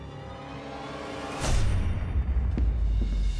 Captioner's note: bang; running steps